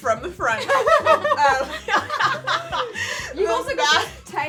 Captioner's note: women laughing